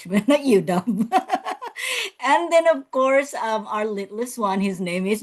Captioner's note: laughs